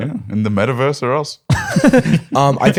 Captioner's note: laughter